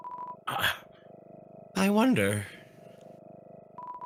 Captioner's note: stammers